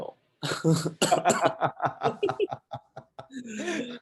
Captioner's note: laughs